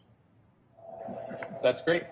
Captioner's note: blinds whirring